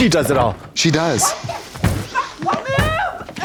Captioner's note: Misty snorting